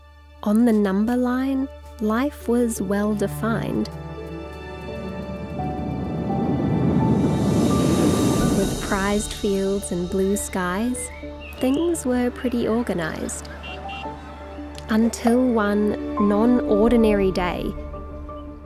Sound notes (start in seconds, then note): 5.6 rocket engine roaring